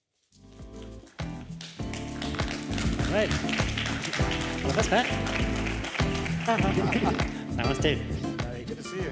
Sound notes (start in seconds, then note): 3.7 applause